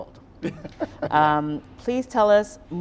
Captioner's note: Donovan laughing